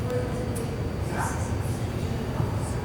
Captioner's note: speaking off microphone